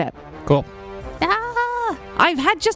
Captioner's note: faux-yells